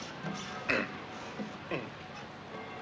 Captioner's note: grunting